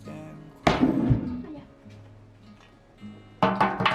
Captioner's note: sound of me bumping my knee on the table